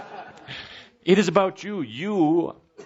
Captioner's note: laughter